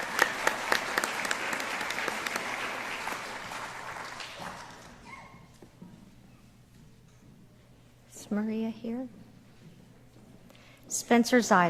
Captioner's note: applause